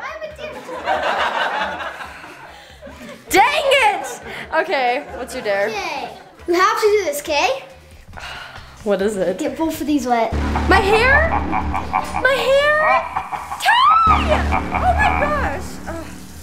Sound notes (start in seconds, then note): 0.5 crowd laughs; 8.3 exhales; 11.9 evil laughing